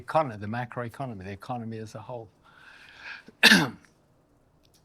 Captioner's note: coughs